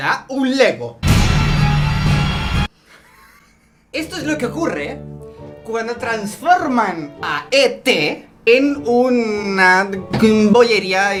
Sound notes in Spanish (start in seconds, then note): 1.0 ruidos de terror; 2.8 risas